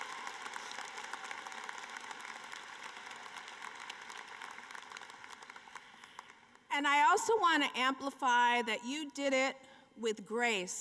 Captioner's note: applause